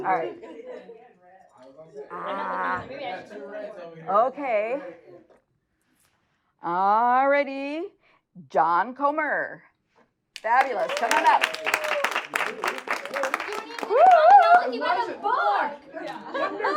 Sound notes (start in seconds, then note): 12.2 audience cheering and applauding